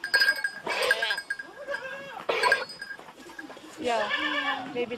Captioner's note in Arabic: ثغاء الماعز